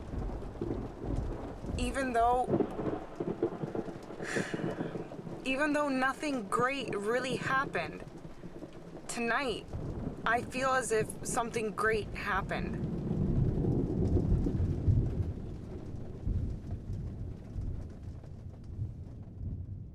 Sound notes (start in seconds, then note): 11.8 thunder rumbling